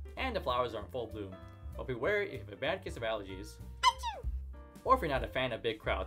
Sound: sneezes

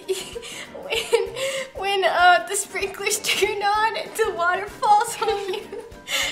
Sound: laughs

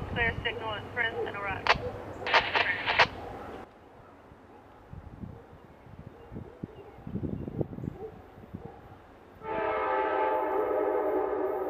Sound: wind blowing

